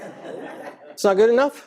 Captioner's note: audience laughing